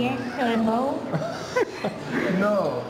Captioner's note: laughter